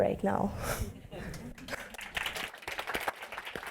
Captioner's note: laughs; applause